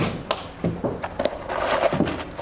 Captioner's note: clattering, rustling